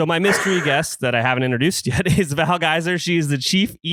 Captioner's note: laughs